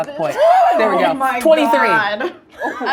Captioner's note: laughing